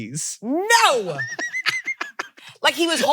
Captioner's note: laughs